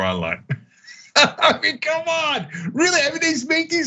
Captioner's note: laugh